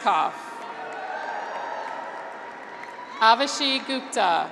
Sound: graduates cheer

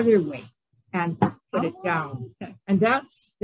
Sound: thunk sound

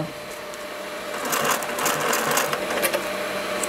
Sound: rattling of the sewing machine

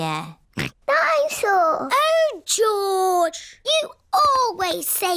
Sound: snorts

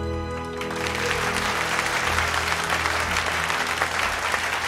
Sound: crowd clapping

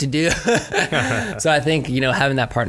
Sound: laughs

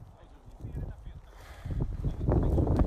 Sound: sighs

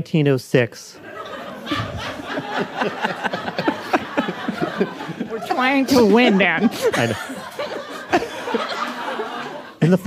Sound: laughter

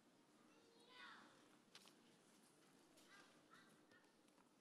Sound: toddler shouting

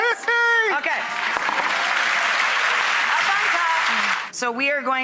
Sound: applauding

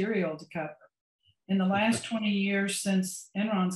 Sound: laughs

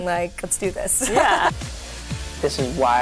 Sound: woman laughs

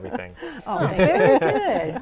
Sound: laughing

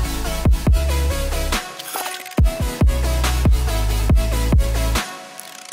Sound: camera shutter

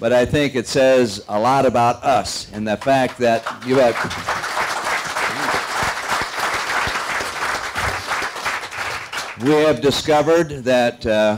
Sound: applause

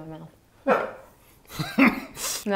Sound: laughing

